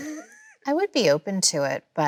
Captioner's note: Chloe laughs